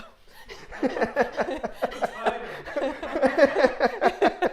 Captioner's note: laughs loudly